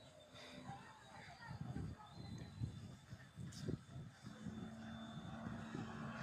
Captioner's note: distant people yelling